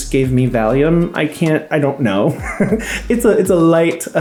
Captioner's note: laughing